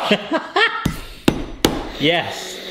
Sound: laughing

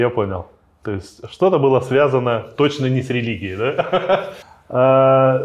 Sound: laughs

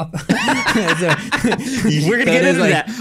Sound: both laughing

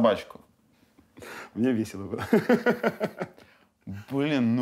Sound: laughs

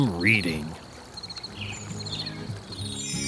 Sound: crickets chirping; stars sparkles

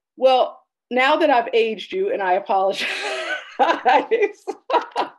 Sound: laughing

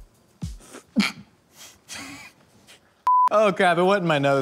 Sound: chokes; laughs

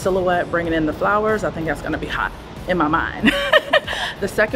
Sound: laughs

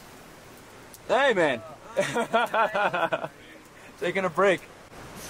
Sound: laughing

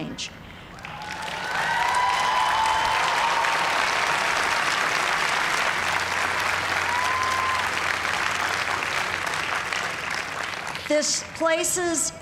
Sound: cheering and applause

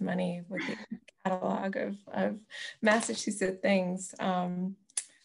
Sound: laughs

